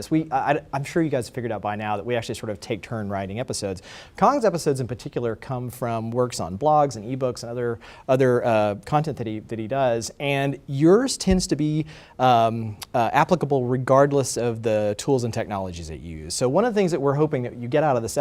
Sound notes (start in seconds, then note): none